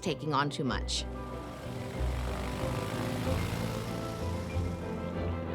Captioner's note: plane motor whirring